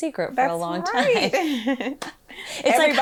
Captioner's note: laughs